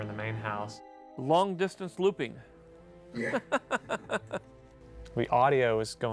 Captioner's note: laughs